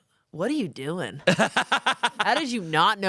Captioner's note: laughs